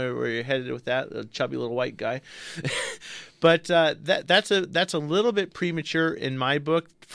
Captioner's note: laughs